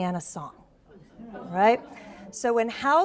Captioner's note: audience exclaims